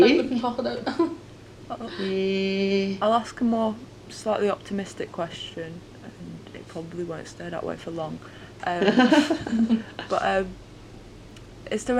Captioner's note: laughter